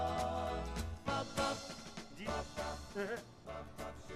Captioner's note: murmuring